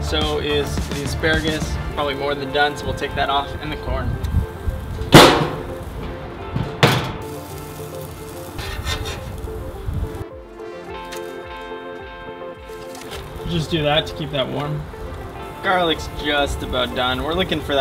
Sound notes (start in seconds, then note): 7.7 grilling sounds; 10.7 light music